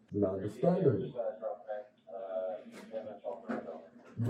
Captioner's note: radio chatter